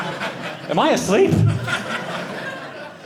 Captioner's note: audience laughing